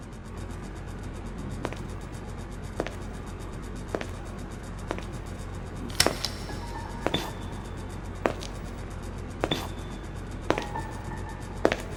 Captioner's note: footsteps approaching